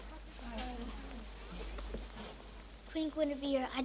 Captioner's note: speaking softly together